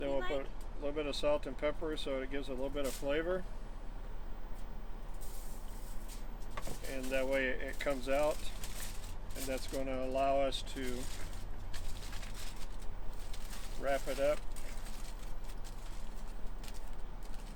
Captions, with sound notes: - Then we'll put a little bit of salt and pepper, so it gives a little bit of flavor. And that way it comes out, and that's going to allow us to wrap it up. (tinfoil crinkles)